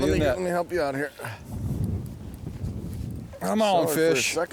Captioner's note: voiceover